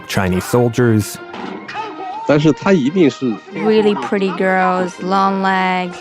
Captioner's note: speaking Mandarin Chinese